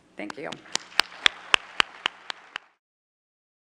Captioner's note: clapping